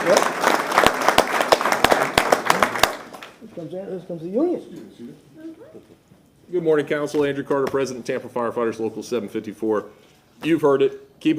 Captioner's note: applause